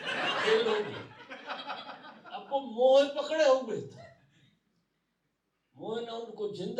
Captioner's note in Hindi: हंसी